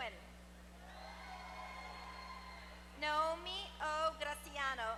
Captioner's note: applause